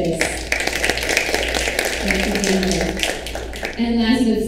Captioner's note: audience applauds